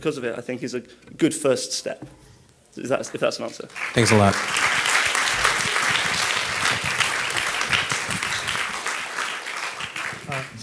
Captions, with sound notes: of it I think is a good first step. Is that, if that's an answer. - [Voiceover] Thanks a lot. (audience applauding)